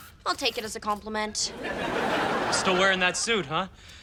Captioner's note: audience laughs